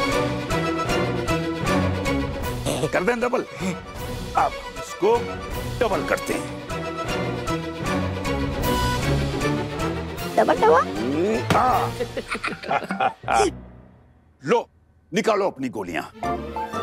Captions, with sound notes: - Shall I double them? - Hmm! Okay, let's double them. - Double, - Ah-ha! [giggling] Take out your pellets.